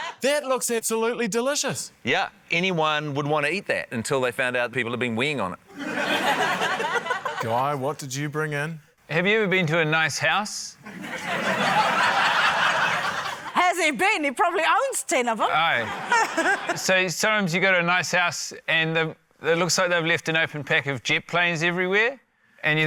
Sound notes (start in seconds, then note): 0.0 laughter; 5.7 laughter; 10.8 laughter